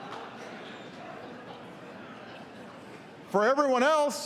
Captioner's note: laughter